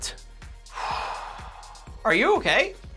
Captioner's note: calming Exhale